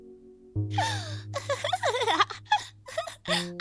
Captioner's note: giggling